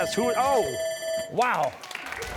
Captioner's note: bell ringing